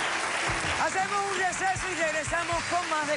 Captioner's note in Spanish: Aplausos